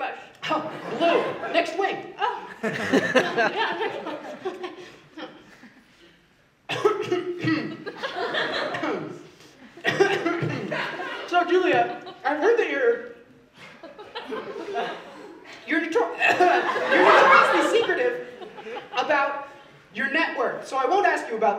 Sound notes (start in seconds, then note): 2.3 aggressively clears throat of spice